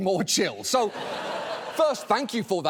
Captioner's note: studio audience laughs